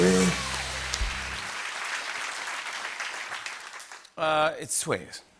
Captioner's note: applause